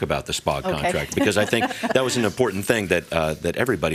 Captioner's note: laughs